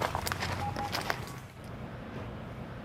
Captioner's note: elektronik bip sesi